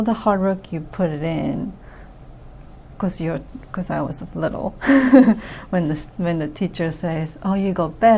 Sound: laughs

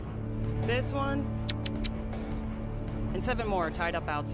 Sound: smooching

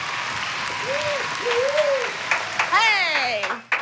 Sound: cheering; applause

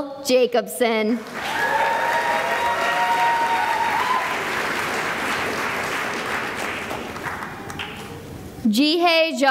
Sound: cheering and applause

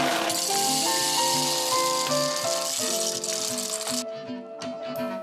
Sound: coffee beans clatters

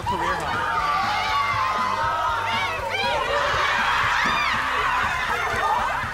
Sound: team laughing and cheering

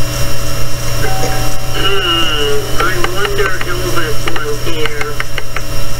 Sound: doorbell Ringing

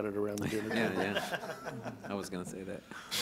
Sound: group laughing

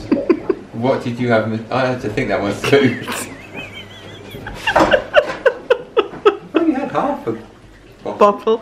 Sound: laughs

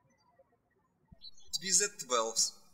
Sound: birds chirping

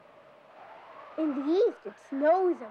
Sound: wind howling

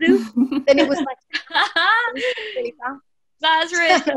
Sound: laughing

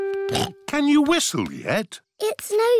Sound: snorts

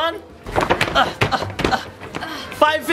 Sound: feet stomping

